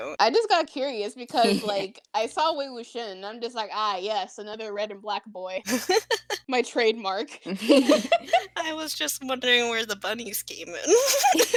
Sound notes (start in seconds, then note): 5.6 laugh; 10.9 laughter